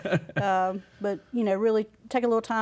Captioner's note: laughs